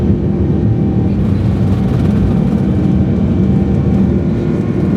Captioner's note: engines continue roaring